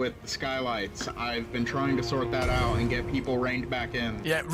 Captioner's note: molotov explodes in the back